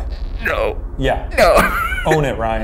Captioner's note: laughs